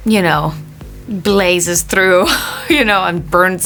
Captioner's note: chuckling